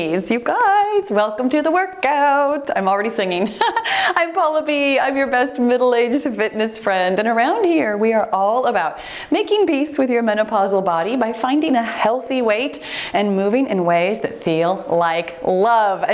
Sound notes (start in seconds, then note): 3.5 laughing